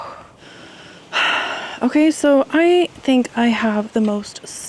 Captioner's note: exhales